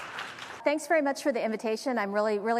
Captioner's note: applause